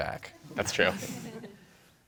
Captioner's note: laughter